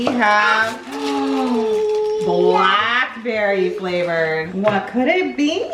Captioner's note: gasps